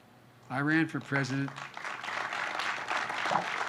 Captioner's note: applause